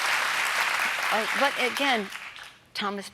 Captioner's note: applause